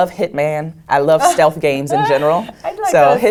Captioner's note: laugh